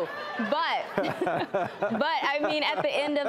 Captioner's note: laughing